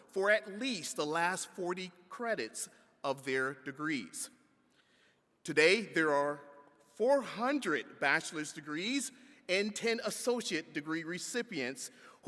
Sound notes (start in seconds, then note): none